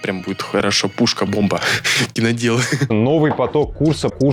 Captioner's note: laughter